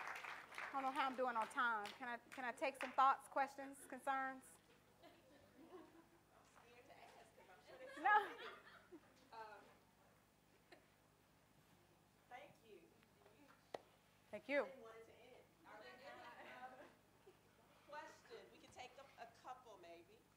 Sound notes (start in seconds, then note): 4.9 audience conversation and laughter